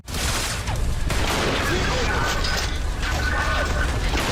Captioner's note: gunshot echoing loudly